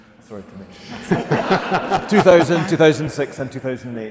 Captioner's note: audience laughing